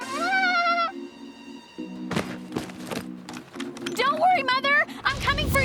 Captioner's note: giggle